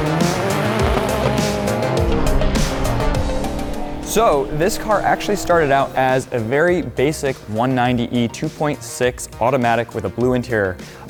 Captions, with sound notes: (engine revving) (upbeat music) So this car actually started out as a very basic one 190 E 2.6 automatic with a blue interior